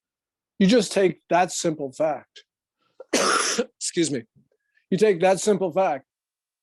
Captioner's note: coughs